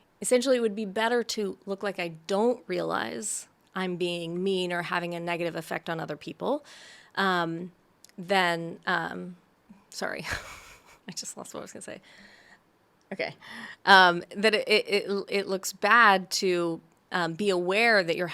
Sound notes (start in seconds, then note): 10.4 laughs